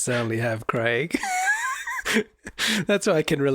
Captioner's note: both laughing